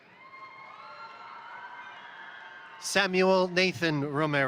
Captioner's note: crowd cheering; crowd applauding